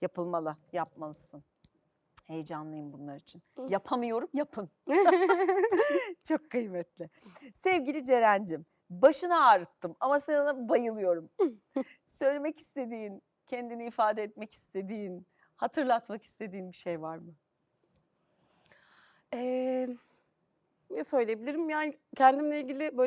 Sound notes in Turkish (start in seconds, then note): 4.9 kahkaha; 6.7 homurdanır